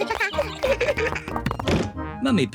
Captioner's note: both giggle